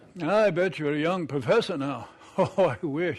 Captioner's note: chuckles